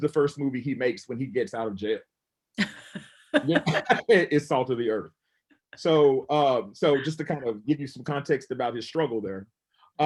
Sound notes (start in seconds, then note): 2.6 laughs